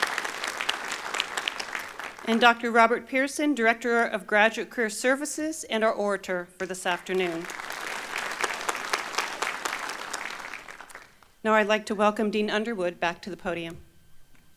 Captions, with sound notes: (Applause) And Dr. Robert Pearson, Director of Graduate Career Services, and our Orator for this afternoon. (Applause) Now I'd like to welcome Dean Underwood back to the podium.